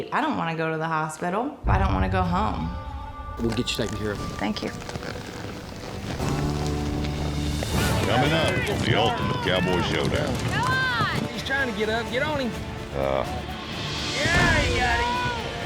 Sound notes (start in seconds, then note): 10.3 all shouting; 13.6 thuds down